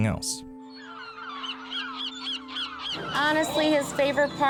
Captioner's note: seagulls squawking